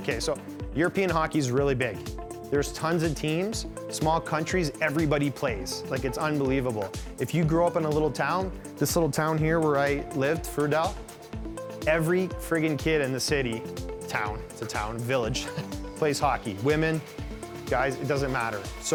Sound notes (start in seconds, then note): 15.2 scoffs